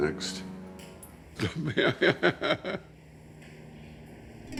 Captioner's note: laughs